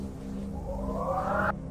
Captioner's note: wind noise